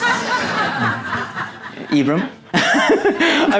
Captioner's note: audience laughing; laughs